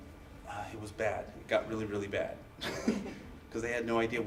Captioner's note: laughs